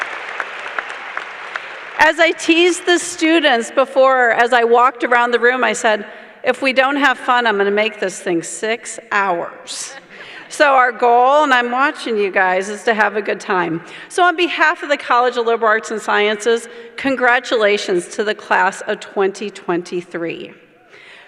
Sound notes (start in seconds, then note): 3.3 cheering